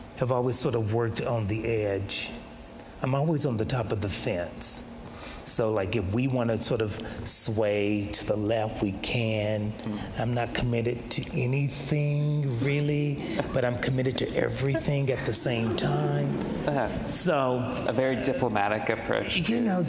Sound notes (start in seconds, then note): 14.4 audience laughs